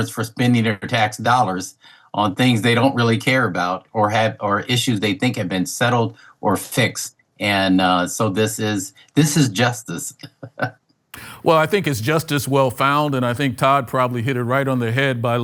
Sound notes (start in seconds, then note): 10.2 laughs